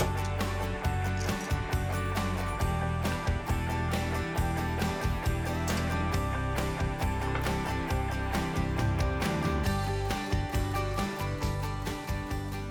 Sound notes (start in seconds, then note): 0.2 bright music; 4.3 bright music continues; 4.3 toaster clicks; 8.5 plate clinks